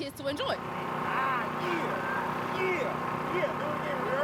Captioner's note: engine roaring